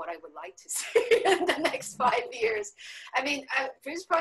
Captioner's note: laughing